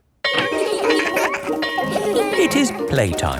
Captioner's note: bell ringing; laughing